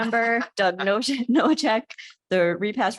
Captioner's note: chuckling